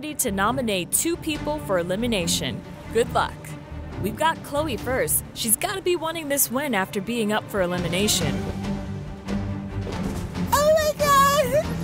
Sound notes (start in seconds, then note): 8.6 footsteps pattering